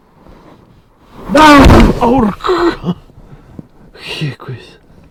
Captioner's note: terrifying scream